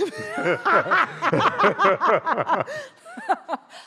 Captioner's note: both laughing